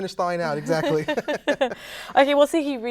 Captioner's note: both laugh